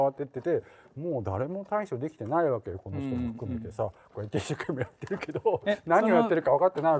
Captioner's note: laugh